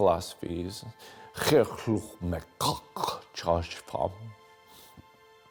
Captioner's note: speaking in Klingon